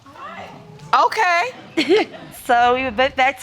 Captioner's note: chuckles